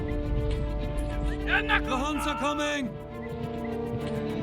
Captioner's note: dubbed in English